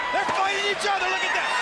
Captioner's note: crowd chatter